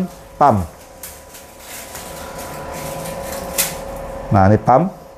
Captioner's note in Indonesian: suara mesin printer